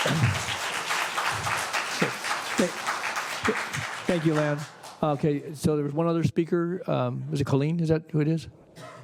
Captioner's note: applause